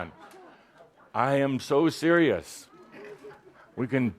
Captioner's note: laughter